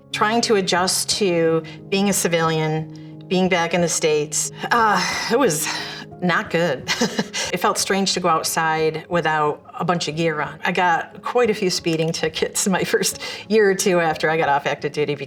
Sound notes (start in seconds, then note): 4.6 sighs; 6.8 chuckles